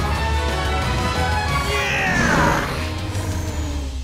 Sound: grunting

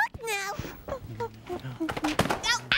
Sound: books drop

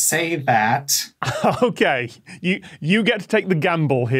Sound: laughs

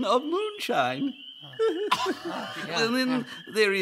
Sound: giggling

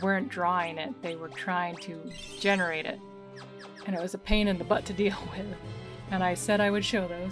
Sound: laughing

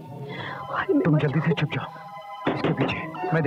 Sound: door knocks

